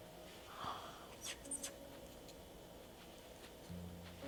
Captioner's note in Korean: 슥슥